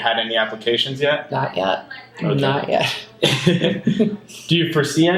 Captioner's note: laughs